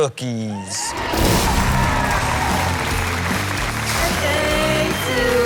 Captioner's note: crowd cheering and applauding